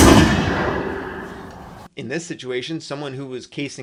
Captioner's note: gunshots